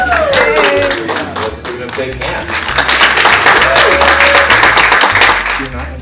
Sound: applause

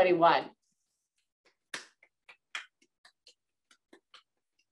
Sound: clapping

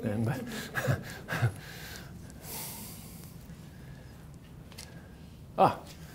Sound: laughs

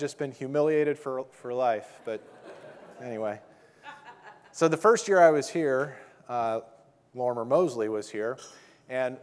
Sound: audience laughing

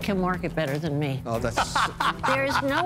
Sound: laughs

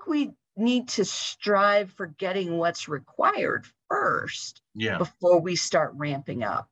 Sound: talking

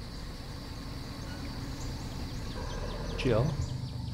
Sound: car rumbling

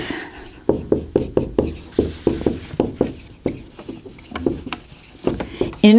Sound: sound of marker writing

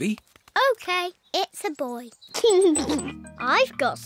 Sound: giggles

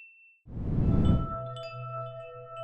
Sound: whoosh

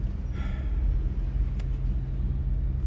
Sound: sighing

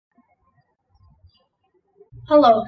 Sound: birds chirping

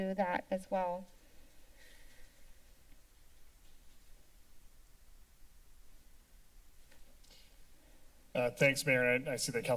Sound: silence

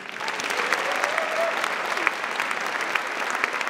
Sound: applause

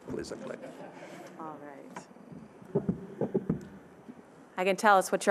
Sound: audience chuckling

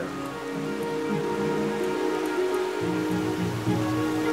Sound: machinery hum; water gushing

